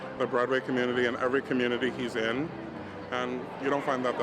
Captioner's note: none